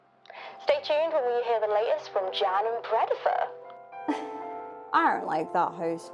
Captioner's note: scoffs